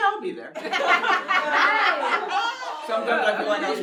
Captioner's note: everyone laughs